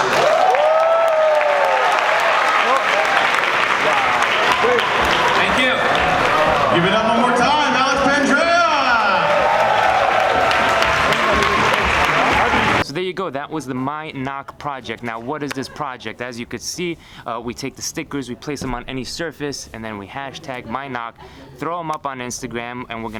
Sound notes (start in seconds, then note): 0.1 audience applauds and cheers; 9.4 audience cheers